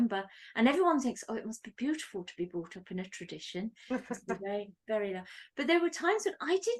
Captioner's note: laugh